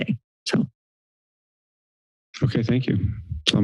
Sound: silence

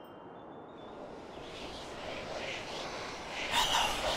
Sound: creepy whispering

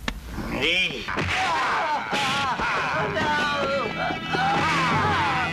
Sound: fighting sound effects

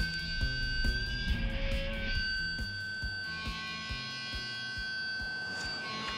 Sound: feedback

